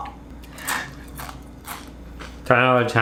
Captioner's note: crackling sound